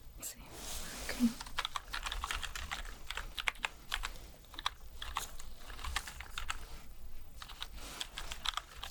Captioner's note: typing sounds